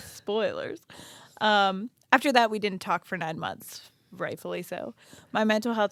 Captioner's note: none